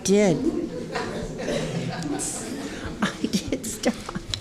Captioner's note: laughing